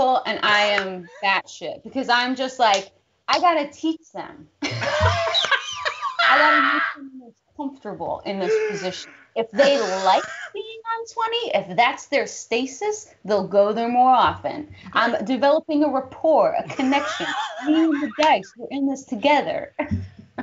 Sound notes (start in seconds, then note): 4.6 both laughing